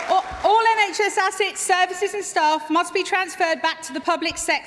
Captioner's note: applause